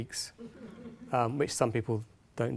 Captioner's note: audience laughing